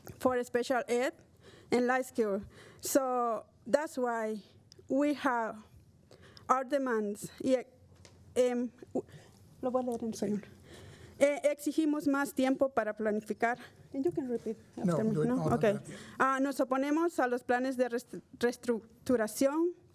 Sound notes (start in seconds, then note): 12.5 speaking spanish